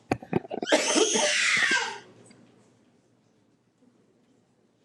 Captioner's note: child screaming